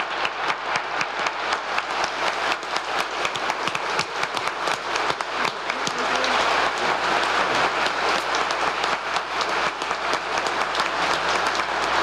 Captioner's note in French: applause